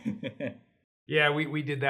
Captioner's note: chuckles